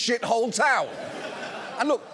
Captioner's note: audience laughs